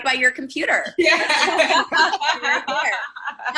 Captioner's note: laughing